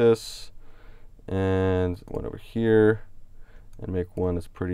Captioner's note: clicks on mouse